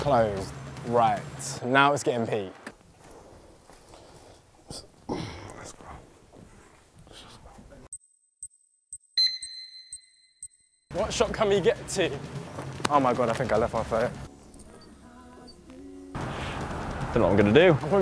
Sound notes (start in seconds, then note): 8.3 counter beeping